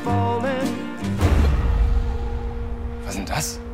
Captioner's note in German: Schockgeräusch, Musik endet